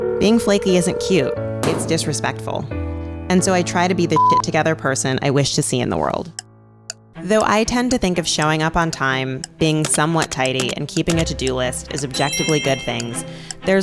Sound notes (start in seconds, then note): 4.2 beep